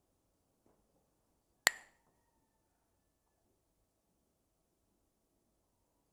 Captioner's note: clacks the sticks